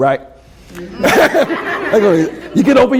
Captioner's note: laughter